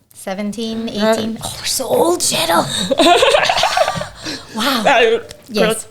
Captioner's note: laughing